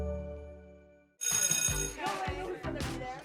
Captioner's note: chiming music; bell ringing; upbeat music